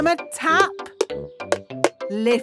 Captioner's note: taping